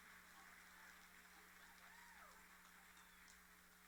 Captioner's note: applauding